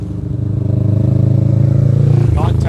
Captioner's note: engine grumbling